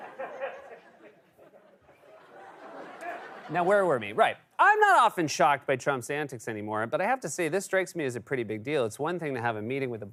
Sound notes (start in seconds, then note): 2.5 laughter